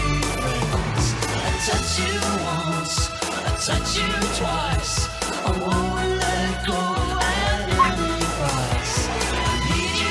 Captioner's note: Ella barks